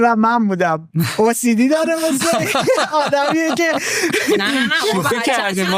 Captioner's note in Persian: خنده